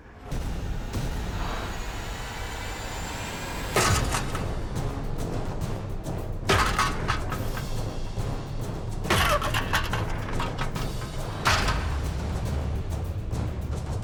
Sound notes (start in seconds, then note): 0.1 tense music; 6.0 clanking